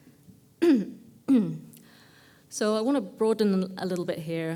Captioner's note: cough